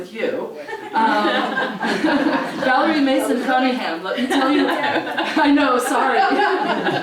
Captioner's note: laugh